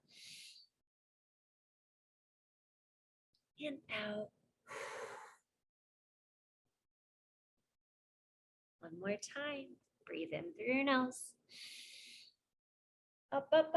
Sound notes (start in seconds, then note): 0.3 inhales; 4.7 exhales; 11.7 inhales